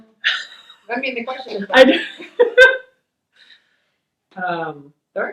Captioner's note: laughs